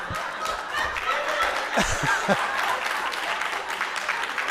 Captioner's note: audience applauding